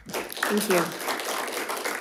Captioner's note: audience applauds